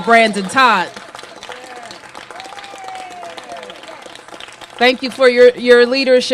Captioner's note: applause